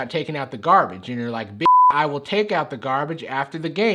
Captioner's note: beep